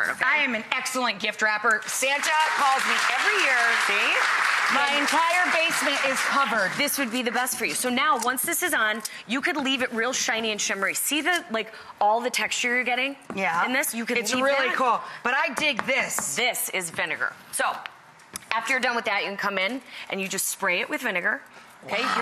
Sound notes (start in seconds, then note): 1.8 applause